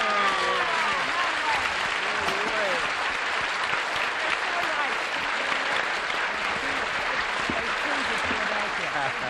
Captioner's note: applause